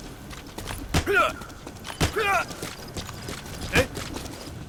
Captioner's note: soldier grunting